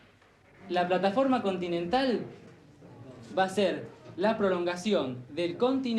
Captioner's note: man speaking in foreign language